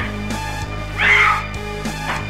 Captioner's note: scream